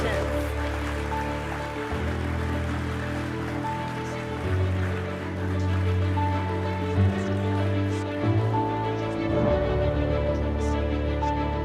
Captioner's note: applause and celebration music